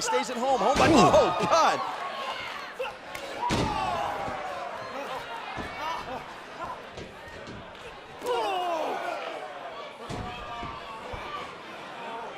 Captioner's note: crowd chatter